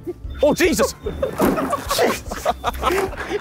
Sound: mobility scooters crashing; men laughing

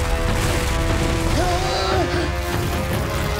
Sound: moaning

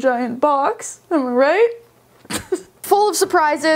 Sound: laughs

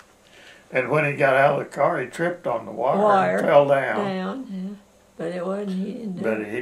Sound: laughs

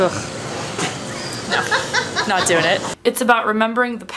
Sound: laughs

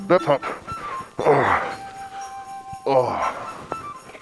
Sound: groaning

